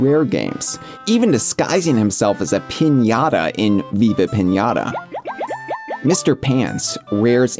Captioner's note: goldfish bubble sounds